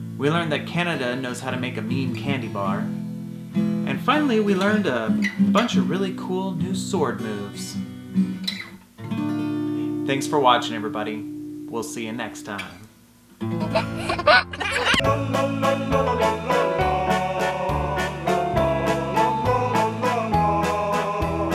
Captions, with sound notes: We learned that Canada knows how to make a mean candy bar, and finally we learned a bunch of really cool new sword moves. Thanks for watching everybody, we'll see you next time. (giggles) (accordion music)